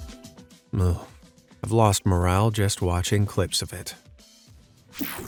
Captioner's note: groans